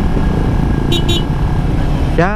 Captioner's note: horn